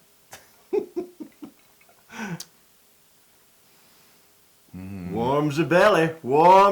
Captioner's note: laugh